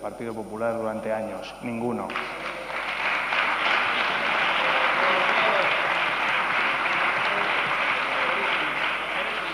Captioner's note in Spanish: Aplausos